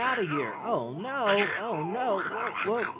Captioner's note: grumbling